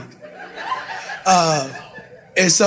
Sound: audience laughing

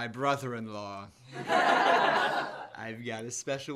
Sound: laughter

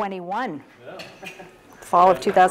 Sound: laugh

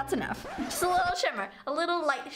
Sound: scratching record

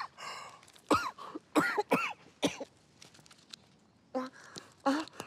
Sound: coughing

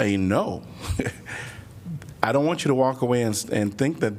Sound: laughter

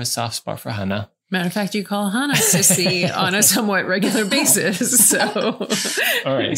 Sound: laughing

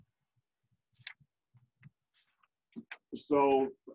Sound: page flipping

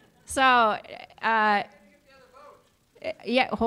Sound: audience member shouting

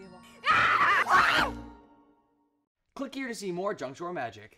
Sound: screams

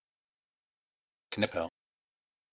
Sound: fast Pronunciation

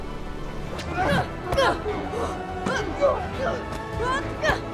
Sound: Angela grunting

